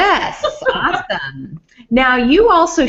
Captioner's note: laughs